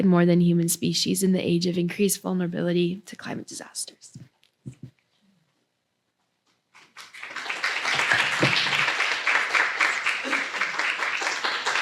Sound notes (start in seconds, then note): 6.7 applause